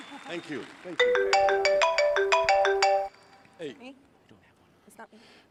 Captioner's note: iphone ringing